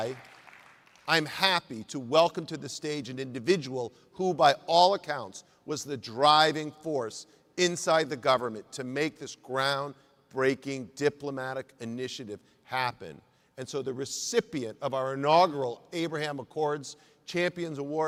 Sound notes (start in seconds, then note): 0.0 applause